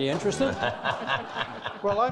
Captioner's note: all laughing